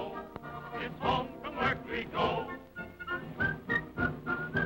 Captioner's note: whistling